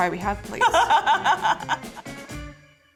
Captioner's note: laughs